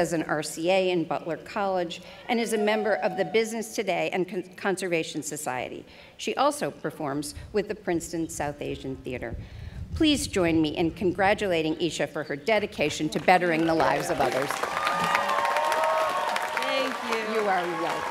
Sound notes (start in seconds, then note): 14.1 students cheering